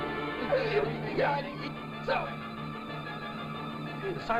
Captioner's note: speaking in foreign language